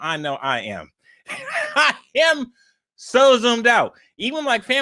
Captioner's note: laughs